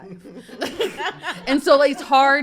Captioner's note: guests and host laugh